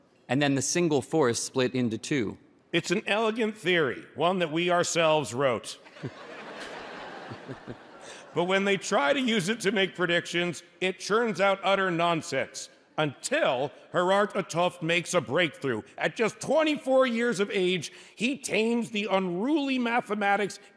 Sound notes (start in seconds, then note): 5.8 audience laughs